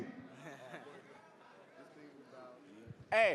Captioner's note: general chatter